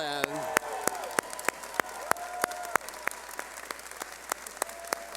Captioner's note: cheering